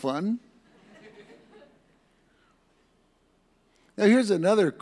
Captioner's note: audience laughs